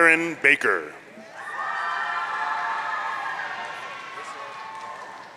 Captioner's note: audience cheering